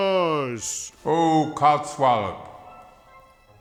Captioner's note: echoing